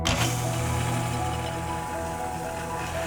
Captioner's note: drilling